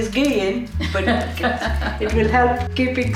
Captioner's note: laughing